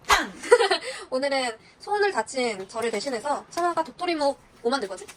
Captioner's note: laughter